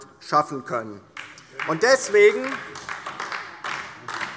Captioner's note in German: Beifall DIE LINKE